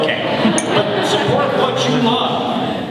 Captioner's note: audience laughing